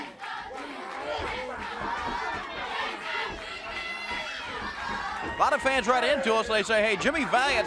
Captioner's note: crowd cheering